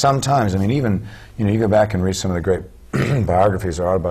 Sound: cough

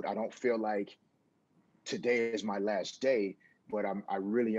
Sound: none

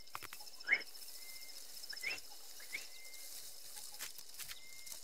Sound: birds calling

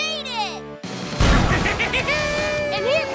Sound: laughing

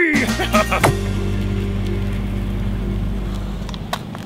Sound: laughs loudly

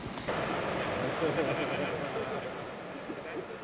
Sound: laughter

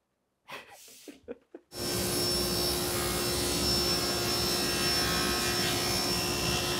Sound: chuckling; saw brattling

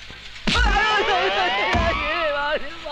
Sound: groans

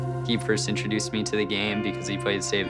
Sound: none

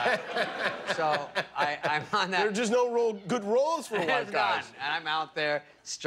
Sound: laughter

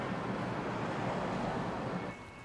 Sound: street noise

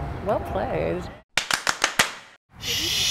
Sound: claps

